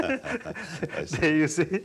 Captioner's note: laughs